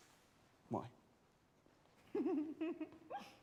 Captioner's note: giggling